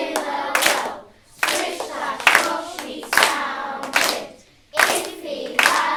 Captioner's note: all rhythmically and clapping